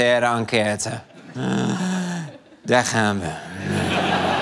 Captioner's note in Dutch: diepe zucht